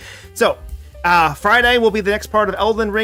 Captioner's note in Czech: none